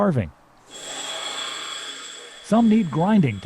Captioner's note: machine whirring